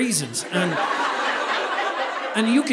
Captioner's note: audience laughing